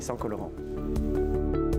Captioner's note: speaking French